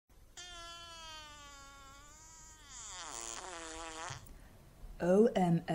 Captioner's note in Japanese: オナラの音